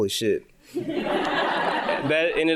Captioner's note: audience laughing